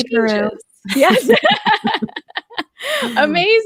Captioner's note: laughing